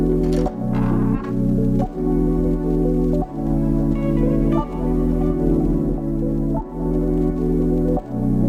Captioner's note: upbeat music; door creaking